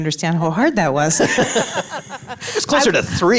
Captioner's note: all laugh